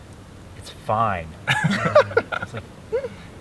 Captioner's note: all laugh